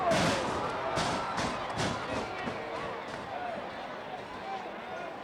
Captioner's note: footsteps clattering